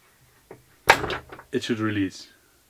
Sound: clanking

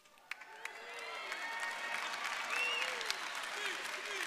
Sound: audience cheering

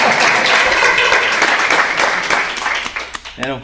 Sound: applause

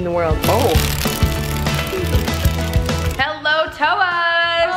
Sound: chicken feet clack

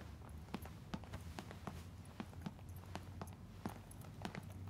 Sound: tapping sound

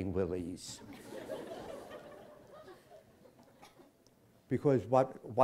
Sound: laughter

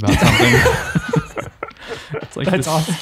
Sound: men laughing

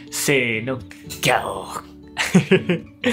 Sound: lion roar in Japanese

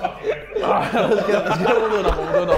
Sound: Sidemen laughing

